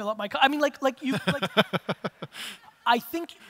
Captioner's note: audience laughter